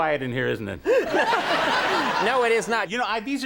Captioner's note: Conan and the audience laugh